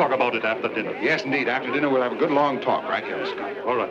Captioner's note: chattering